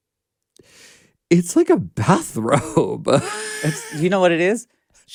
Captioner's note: laughs